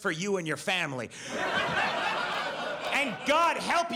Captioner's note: audience laughs